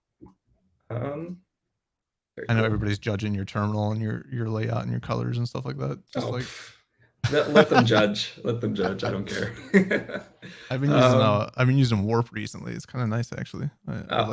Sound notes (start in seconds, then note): 7.2 laughs